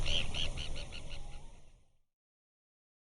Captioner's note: bird tweeting